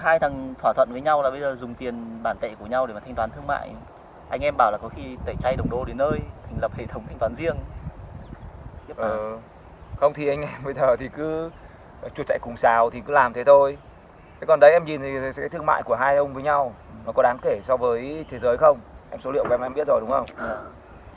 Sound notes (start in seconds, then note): 8.0 chuckles; 10.4 chuckles